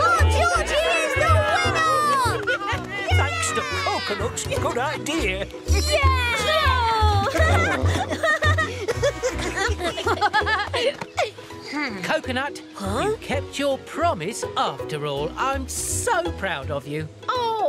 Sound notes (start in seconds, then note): 2.5 cheering